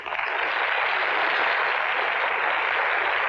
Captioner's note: applauding